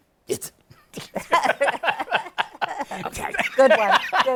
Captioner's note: laughter